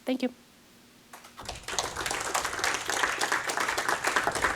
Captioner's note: applause